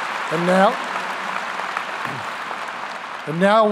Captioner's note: applause